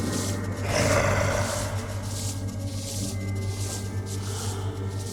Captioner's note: creature snarling; Phil breathes heavily